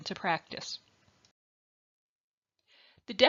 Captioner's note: silence